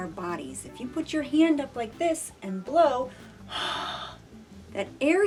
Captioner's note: exhales